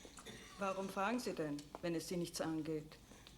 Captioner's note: speaking german